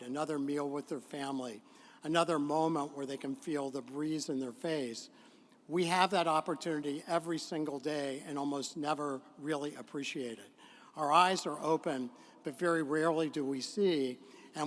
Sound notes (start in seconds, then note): none